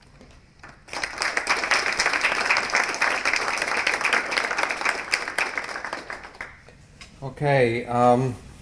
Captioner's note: applause